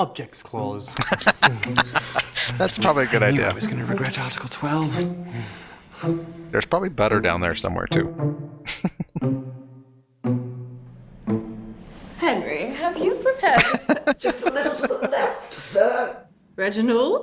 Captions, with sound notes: [Laughing] That's probably a good idea. There's probably butter down there somewhere, too. [Chuckling] [Laughing]